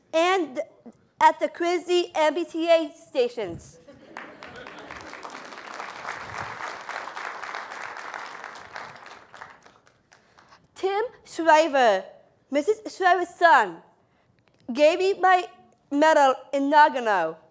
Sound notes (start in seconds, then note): 4.1 applause